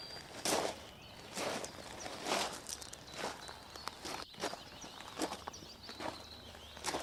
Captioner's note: shoes continue shuffling; birds continue chirping